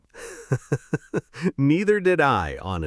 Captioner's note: laughs